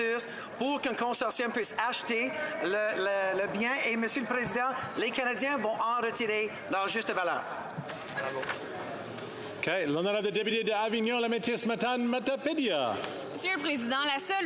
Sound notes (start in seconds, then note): 6.2 speaking French